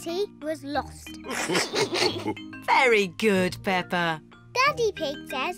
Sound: all laugh

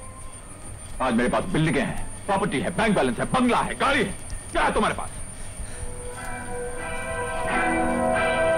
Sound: audio from the Television

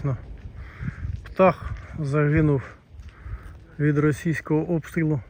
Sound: none

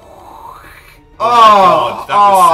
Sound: moans

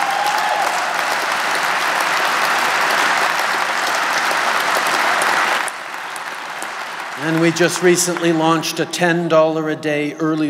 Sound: cheers & Applause

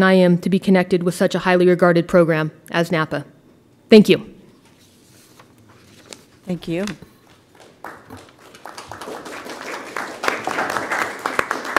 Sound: applause

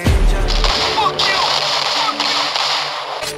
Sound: gunshots

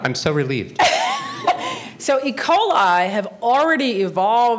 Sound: laughs

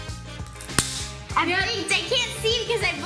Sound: pop-it snaps

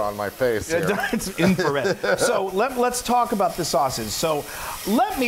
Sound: laugh

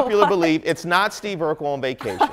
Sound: laughter

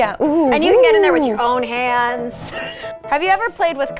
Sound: laughs

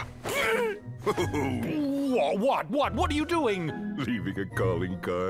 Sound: King chuckling

